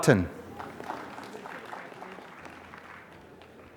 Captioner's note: applause